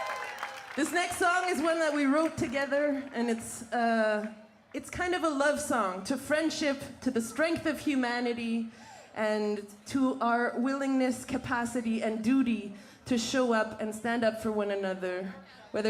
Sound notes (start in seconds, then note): 0.0 cheering and Applause